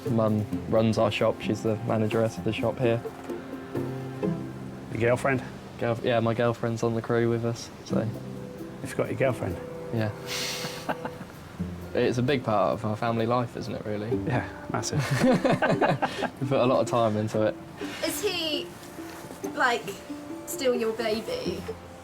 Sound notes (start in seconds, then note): 10.2 they laugh; 14.9 both laughing